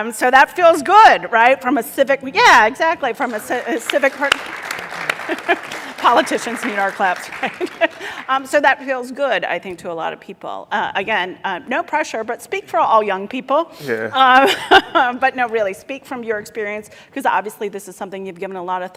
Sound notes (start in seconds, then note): 3.2 applause; 5.1 laughs